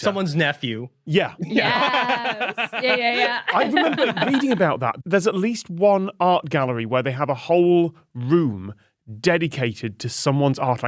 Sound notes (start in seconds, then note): 1.4 laughs